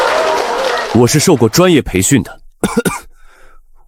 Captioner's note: cough cough